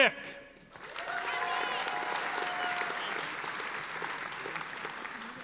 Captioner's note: audience applauding